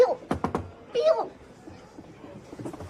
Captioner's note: knocking